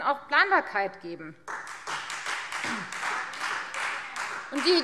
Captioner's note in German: Beifall Freie Demokraten